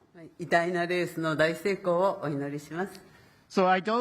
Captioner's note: speaking Japanese